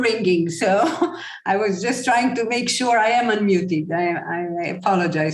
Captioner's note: chuckle